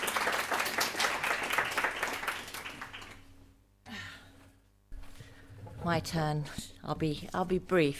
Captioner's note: applause